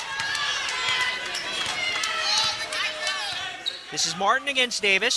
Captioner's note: cheering